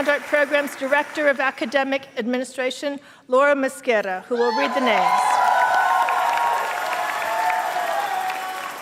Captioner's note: applause and cheers